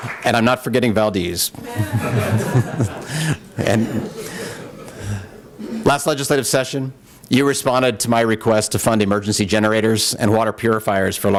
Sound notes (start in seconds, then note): 1.6 laughter